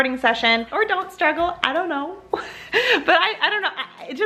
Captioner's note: laughs